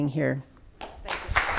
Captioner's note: clapping